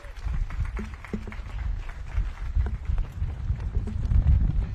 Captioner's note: audience claps